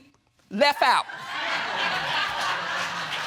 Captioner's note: audience laughing